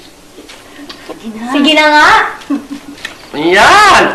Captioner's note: chuckles